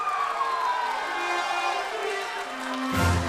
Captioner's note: crowd cheering